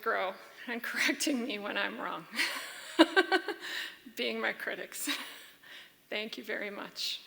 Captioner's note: laughs